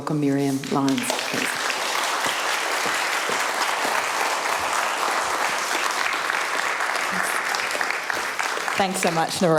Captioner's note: applause